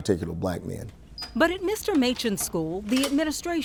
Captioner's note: lock beeping